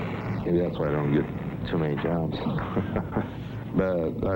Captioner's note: laughing